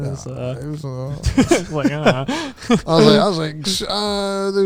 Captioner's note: chuckles